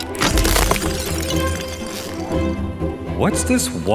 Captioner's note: ice shatters